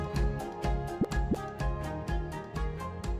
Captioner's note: graphic pops